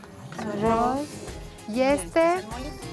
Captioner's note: speaking Spanish